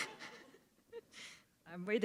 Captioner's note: chuckle